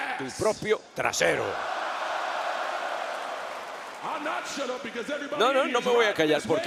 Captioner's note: applause